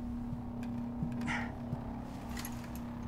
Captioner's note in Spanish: Gruñidos